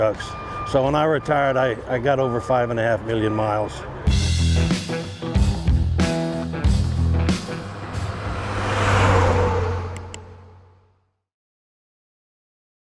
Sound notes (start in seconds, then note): 4.1 powerful music; 8.1 engine roars; 10.0 button clicks